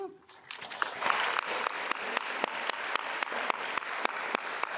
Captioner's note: attendees applauding